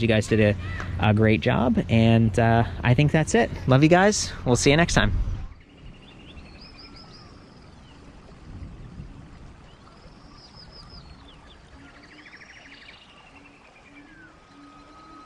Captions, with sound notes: You guys did a great job and I think that's it. Love you guys. We'll see you next time. (birds chirping)